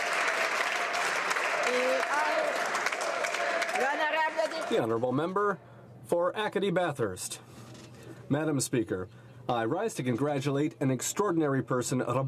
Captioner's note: applause